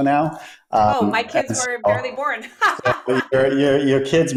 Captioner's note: laughs